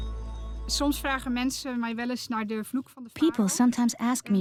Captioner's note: Dutch dubbed in English